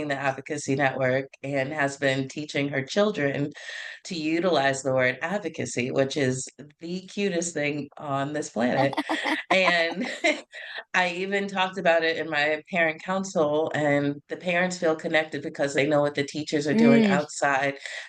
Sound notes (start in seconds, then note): 8.8 laugh